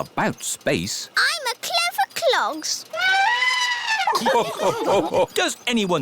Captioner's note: trumpets; all laugh